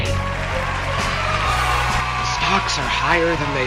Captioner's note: applause